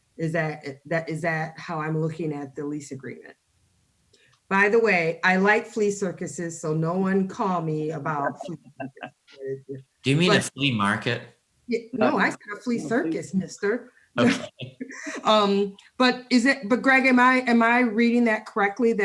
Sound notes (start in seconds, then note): 14.2 laughs